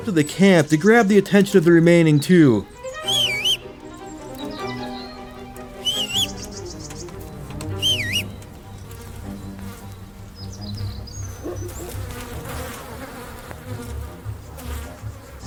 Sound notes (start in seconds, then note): 2.6 Henry Whistles; 5.7 Henry Whistles, again; 7.7 Henry Whistles, yet again